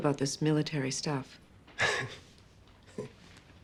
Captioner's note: chuckles